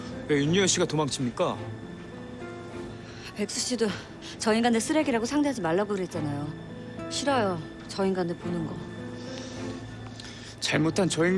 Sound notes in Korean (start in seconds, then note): none